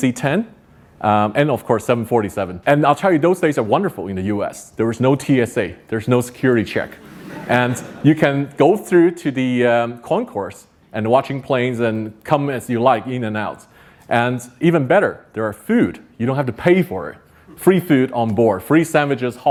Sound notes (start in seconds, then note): 6.9 audience laughs